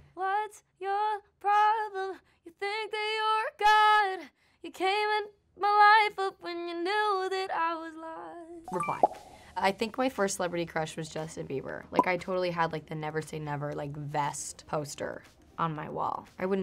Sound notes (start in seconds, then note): 8.7 chiming